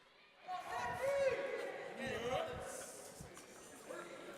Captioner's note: crowd cheering